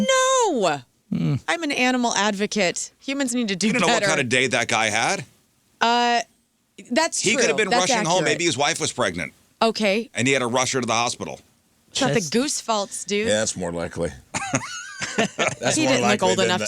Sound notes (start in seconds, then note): 14.3 laughing